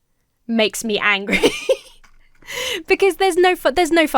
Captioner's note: laughs